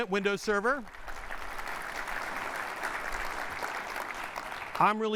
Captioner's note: applause